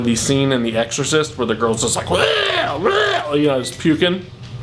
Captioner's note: throwing up sounds